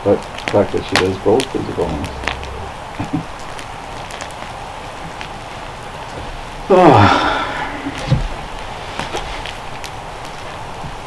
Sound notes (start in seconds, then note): 3.8 fire crackling; 6.7 sighs